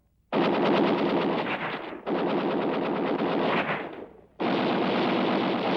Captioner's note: gunfire